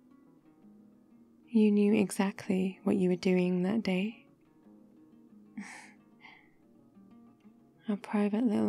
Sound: laughs

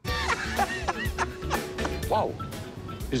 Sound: laughter

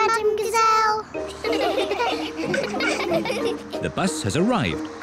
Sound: all giggle

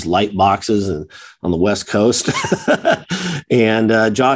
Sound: chuckles

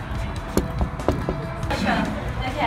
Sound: knock

